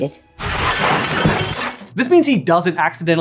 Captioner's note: crash landing